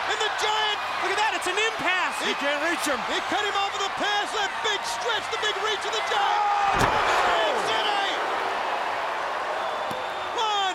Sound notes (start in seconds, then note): 6.5 giant screams